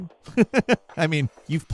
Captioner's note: laughs